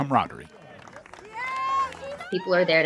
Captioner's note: crowd cheering